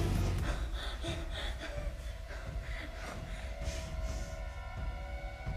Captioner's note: tense music continues; Maeve breathing heavily; tense music